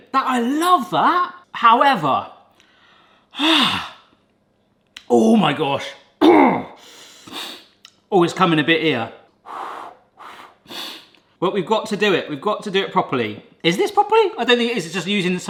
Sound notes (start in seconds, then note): 6.2 clears throat; 7.2 sniffs; 10.1 puffing